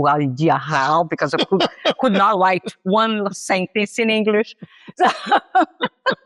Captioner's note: laughs